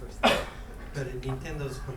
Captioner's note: speaking in foreign language; coughing